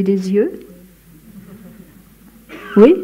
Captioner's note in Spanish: Risas